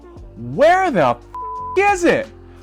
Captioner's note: device beeps